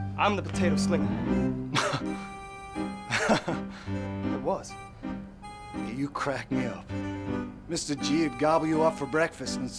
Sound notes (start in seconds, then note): 3.0 laughs